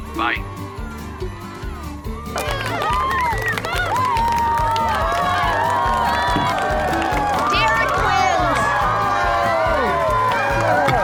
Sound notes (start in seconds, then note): 2.7 cheering, applause